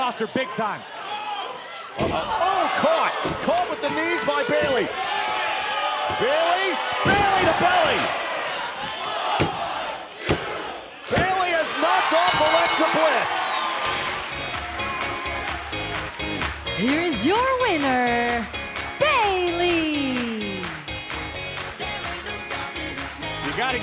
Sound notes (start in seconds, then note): 10.8 fans chanting; 13.8 bell ringing